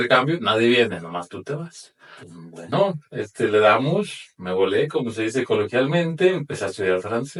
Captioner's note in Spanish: resoplido